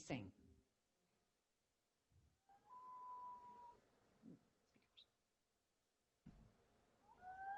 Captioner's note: common loon calling